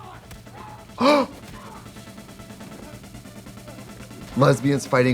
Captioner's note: Trixie gasps